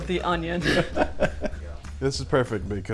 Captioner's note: laughs